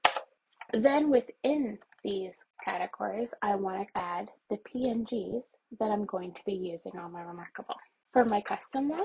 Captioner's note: mouse clicks